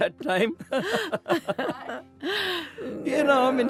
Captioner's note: laughing